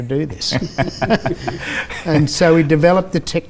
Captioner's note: laughs